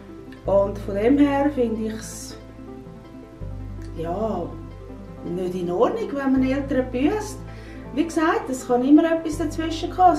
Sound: woman speak Swiss German

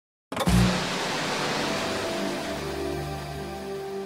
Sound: TV turns on

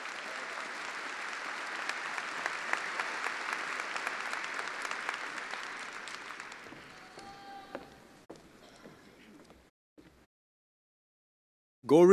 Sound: attendees applauding

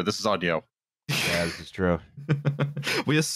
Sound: chuckles

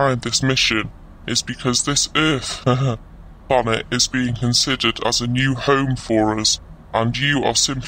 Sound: laughs

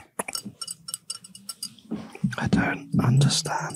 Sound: glass clinking

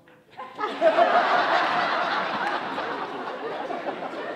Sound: audience laughing

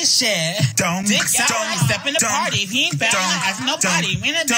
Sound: vocalizing

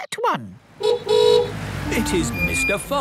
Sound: horn honking

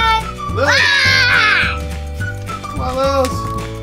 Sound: growls

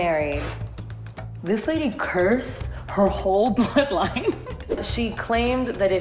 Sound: laughs

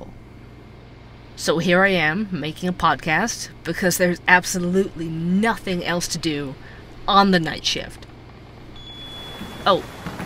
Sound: sound: door chime

